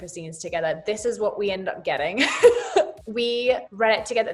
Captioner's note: laughs